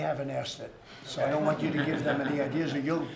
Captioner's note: laughter